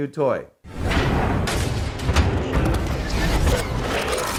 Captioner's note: pounding noise; mechanical noises